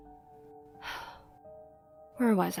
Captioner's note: sigh